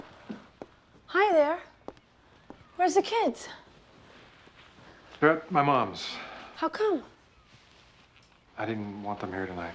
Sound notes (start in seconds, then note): 5.4 sighs